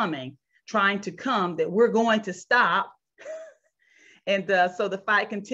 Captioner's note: chuckles